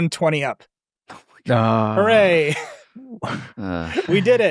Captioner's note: chuckles